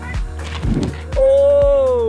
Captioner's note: flames roaring